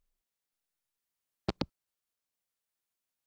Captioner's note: hangup